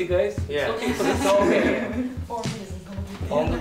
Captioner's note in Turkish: Gülüşmeler